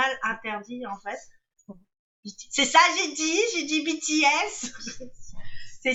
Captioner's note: whispering